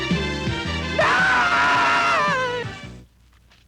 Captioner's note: shouting